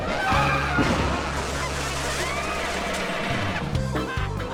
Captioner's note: band playing; screaming and crashing